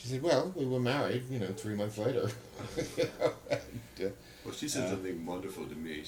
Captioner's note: laughter